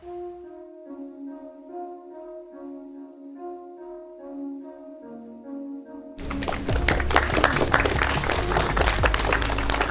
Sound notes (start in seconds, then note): 0.1 gentle music; 6.2 guests applauding